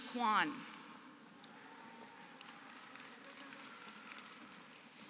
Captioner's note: applause